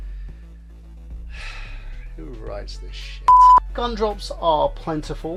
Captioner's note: sigh